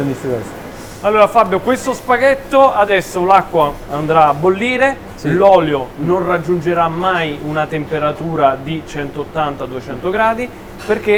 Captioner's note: Italian